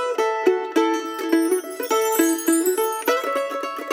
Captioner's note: sparkle noise